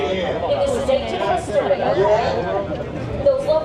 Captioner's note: people chattering in background